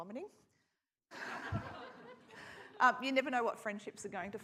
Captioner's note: audience laughs